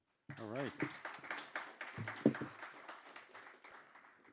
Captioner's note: audience clapping